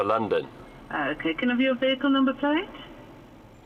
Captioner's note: woman over phone